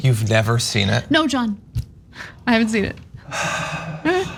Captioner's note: laugh